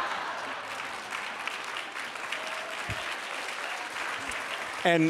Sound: laughter; applause

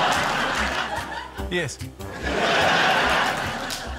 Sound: laughter

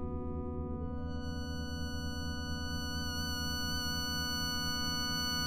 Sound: electronic humming

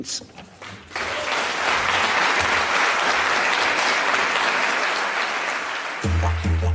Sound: applause

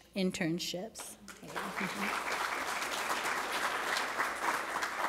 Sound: applause

